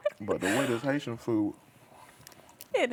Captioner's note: laughing